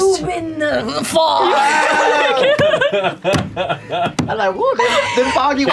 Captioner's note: laughter